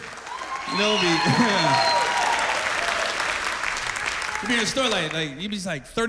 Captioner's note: cheers and applause